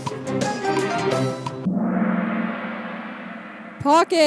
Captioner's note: gong sound